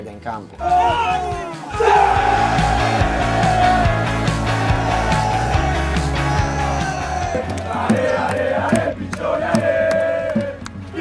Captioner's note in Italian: Applauso